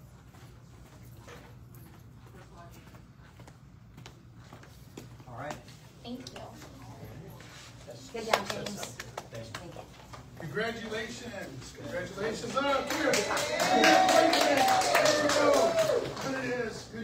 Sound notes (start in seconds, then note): 8.2 claps; 12.9 audience cheers